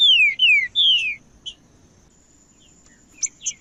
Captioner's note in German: trinca ferro cantando